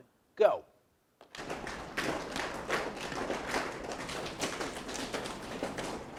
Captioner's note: audience slapping legs